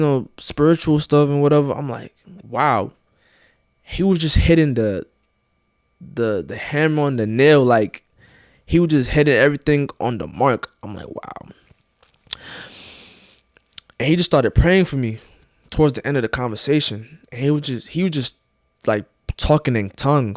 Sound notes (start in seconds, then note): 13.5 lips smack